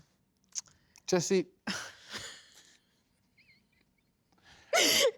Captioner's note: laughs